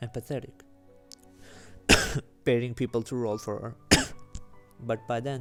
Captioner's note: cough